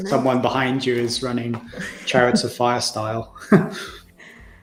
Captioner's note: laughs